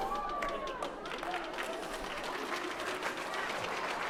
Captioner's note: applause